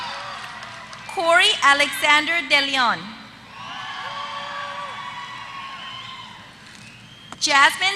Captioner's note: applause; applause